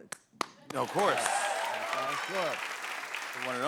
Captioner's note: cheers and applause